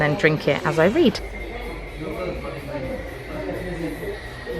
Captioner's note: cafe chatter